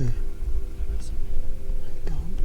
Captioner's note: whispers